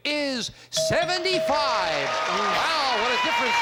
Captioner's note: cheers and applause